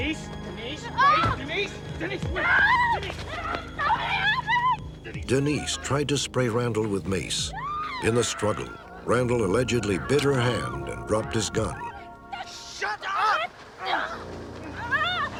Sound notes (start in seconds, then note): 2.3 screaming; 14.6 screaming